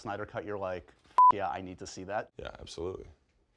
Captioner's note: beep